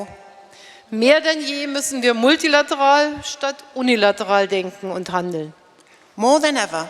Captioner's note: speaking in German